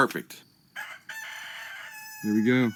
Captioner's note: rooster crowing